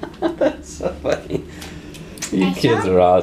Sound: laughing

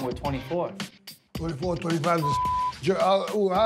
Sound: beep

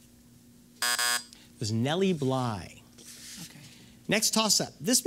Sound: buzz

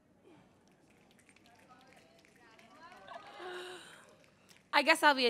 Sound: audience snapping

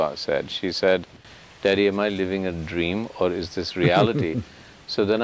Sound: Sadhguru laughs

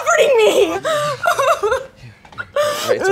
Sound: cries

